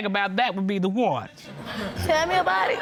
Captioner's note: audience laughing